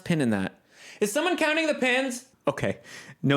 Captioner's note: yelled off-mic